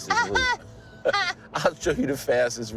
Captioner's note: laughs